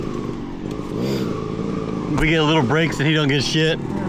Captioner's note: engine revving